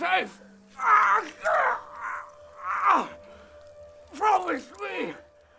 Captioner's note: Prefect Lukon groans